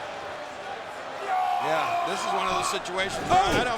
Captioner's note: Rusev yelling